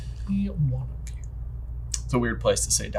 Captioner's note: quietly